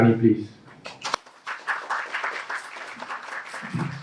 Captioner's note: clapping